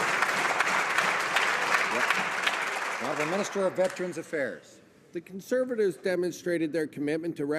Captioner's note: some Applause